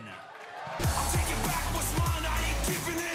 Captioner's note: cheers and applause